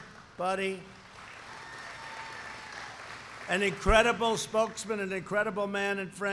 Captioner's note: applause